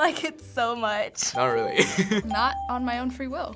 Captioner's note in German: lacht